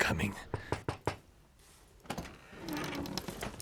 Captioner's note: knocking